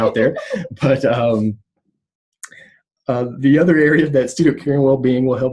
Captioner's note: laughter